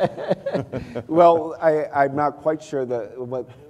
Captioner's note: laughter